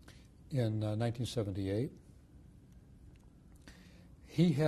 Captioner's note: pauses for 3 seconds